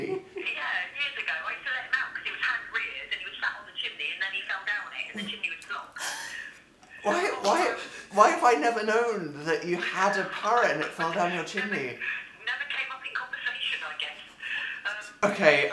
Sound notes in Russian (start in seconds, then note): 11.2 М: *смеется